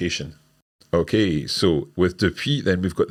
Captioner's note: speaks in foreign language